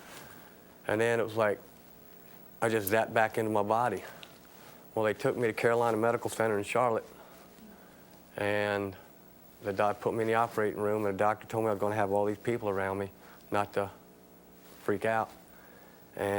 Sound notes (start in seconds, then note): none